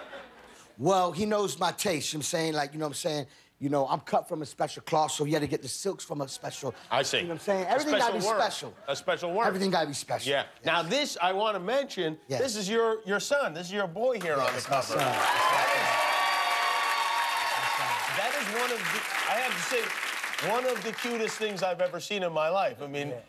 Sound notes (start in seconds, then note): 18.0 cheers and applause